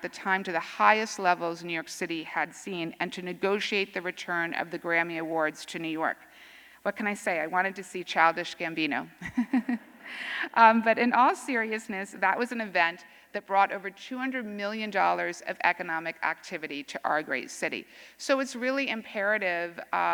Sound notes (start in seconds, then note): 11.0 laughter